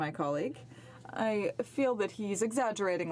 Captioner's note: speaking French